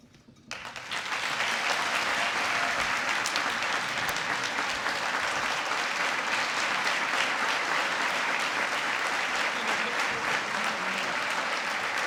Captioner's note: applause